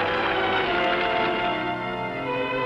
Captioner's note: whooshing